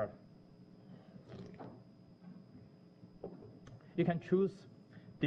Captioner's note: pause